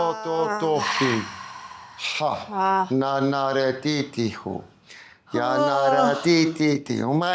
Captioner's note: speaking in foreign language